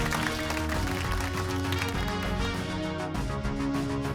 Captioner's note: applause